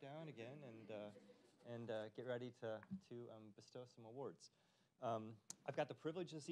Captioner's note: audience chuckling